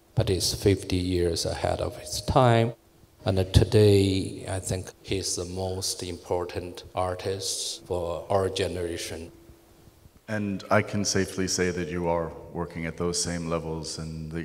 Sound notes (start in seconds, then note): none